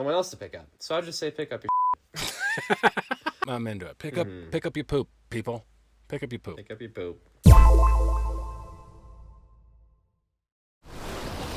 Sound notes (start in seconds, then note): 2.2 laughing; 7.5 sharp tone echoing